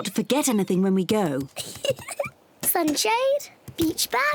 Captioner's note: giggles